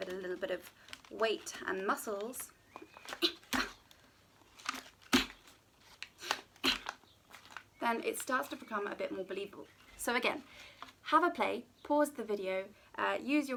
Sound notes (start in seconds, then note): 3.2 grunting; 6.6 grunting